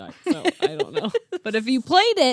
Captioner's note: laughing